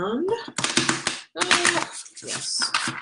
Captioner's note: cards flapping